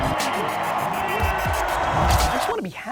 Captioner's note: upbeat music; crowd cheering